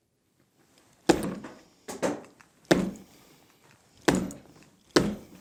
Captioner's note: repeated strikes, no spoken words